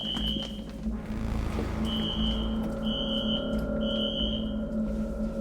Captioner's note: alarm screeching continues